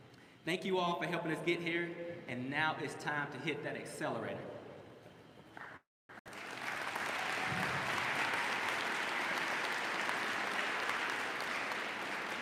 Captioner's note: applause